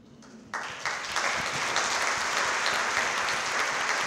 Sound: audience clapping

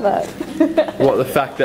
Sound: laughs

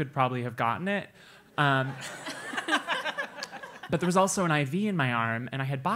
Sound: laugh

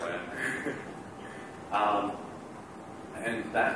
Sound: laughter

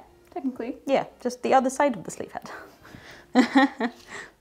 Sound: laughs

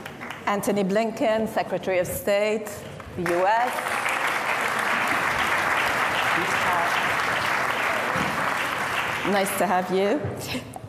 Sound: applause

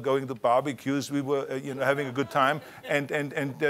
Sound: audience laughter

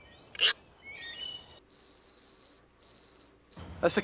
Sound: <i> scraping</i>; <i> chirping</i>

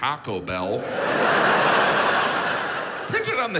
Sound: audience laughs

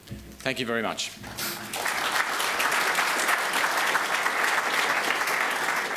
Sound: applause

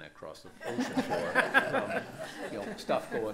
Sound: laughter

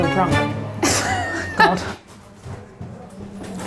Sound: laughs

